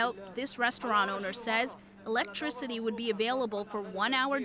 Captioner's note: speaking Foreign Language